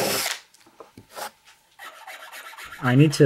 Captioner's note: machine whirs